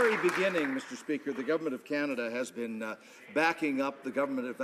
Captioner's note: some Applause